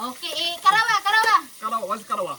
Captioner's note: in Bisaya